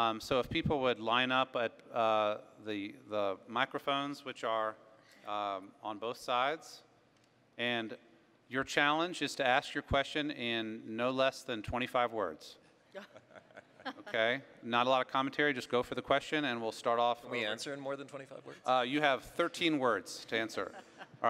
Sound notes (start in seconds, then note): 13.0 laughing